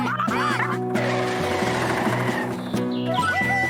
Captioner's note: tires Squealing